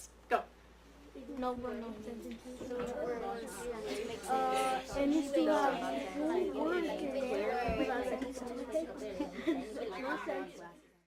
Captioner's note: students discuss